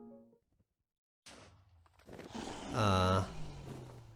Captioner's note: dragon shoots poison ball